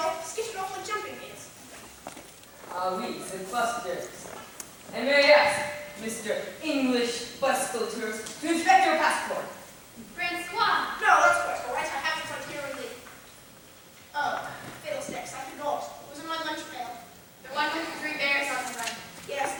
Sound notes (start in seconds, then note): none